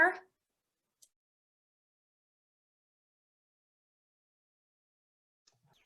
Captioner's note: silence